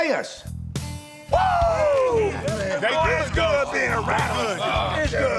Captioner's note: men whooping and talking